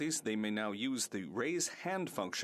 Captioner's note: speaking French